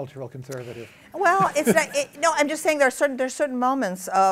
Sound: laughs

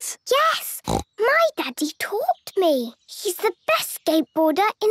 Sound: snorts

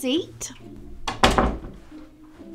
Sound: door closes

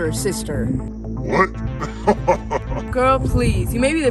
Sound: laughing

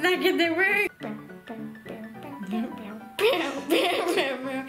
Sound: humming

